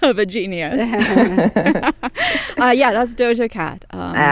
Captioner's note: laughter